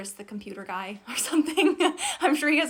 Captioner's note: laughs